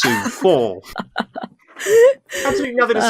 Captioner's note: laughs